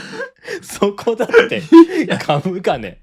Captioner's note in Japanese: 笑い